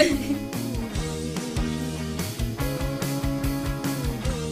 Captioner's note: laughing